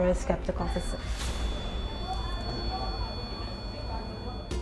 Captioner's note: meter screeches